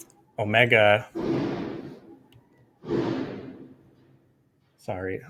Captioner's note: banging